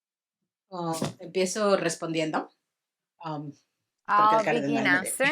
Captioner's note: speaks in foreign language